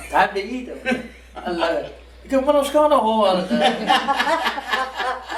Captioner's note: laughing